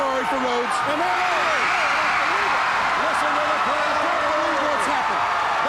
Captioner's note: audience cheers